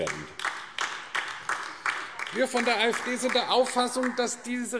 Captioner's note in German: Beifall AfD